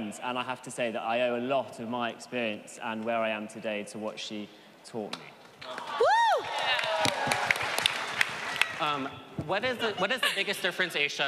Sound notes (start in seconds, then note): 5.7 audience cheering